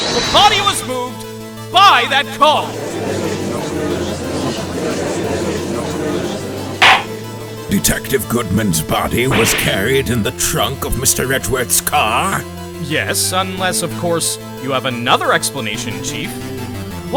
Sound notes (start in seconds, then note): 2.6 gallery chattering; 6.8 gavel slams!